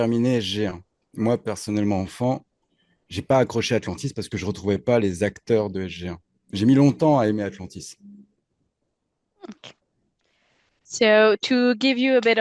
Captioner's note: translating from French